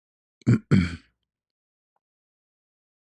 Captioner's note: membersihkan tekak dan batuk